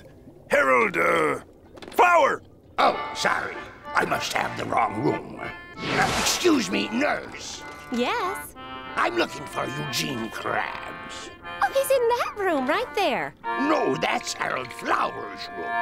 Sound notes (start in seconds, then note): none